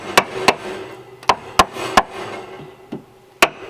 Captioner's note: hammering